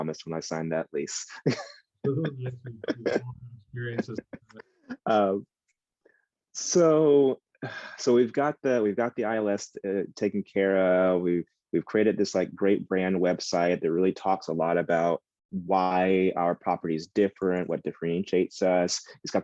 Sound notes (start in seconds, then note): 2.4 speaks faintly